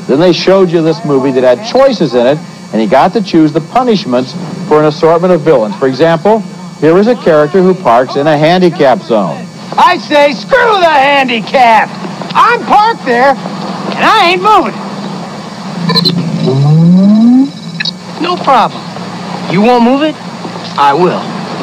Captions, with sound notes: Then they showed you this movie that had choices in and he got to choose the punishment for an assortment of villain. For example, there was a character who parked in a handicap zone. - I say, screw the handicapped, I'm parked there and I ain't moving. (engine whooshing) - No problem. You won't move it, I will.